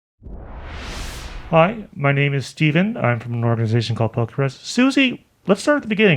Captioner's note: wooshing Noise